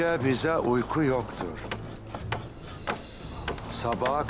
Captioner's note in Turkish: Çekiç sesi